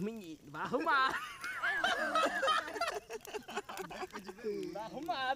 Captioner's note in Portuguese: todos riem